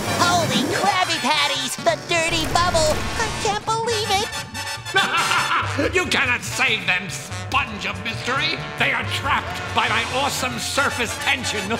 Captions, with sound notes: Holy Krabby Patties! The Dirty Bubble! I can't believe it. [laughing] You cannot save them, Sponge of Mystery! They are trapped by my awesome surface tension!